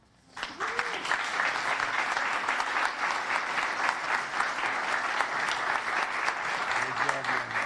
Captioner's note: applause